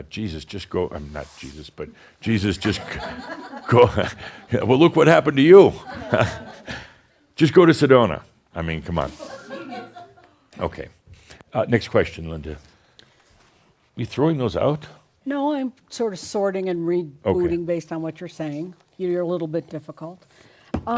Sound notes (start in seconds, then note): 5.6 some chuckles; 9.1 more chuckles